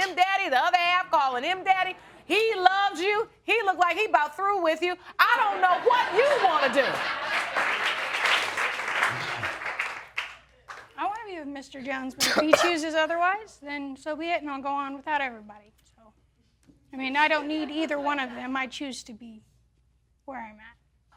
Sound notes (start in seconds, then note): 5.6 audience laughing; 6.9 applause; 10.6 coughing